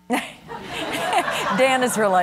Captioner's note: laughter